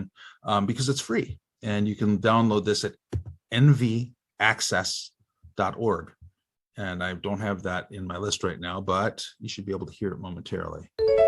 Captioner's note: computer chimes